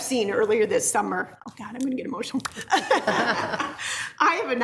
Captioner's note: laughs